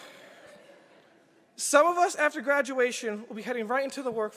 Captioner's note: laughter